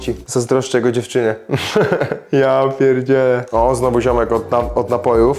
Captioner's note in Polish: śmiech